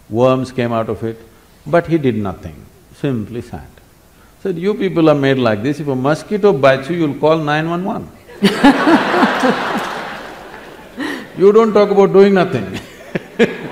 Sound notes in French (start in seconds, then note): 8.3 Rire; 12.7 Rires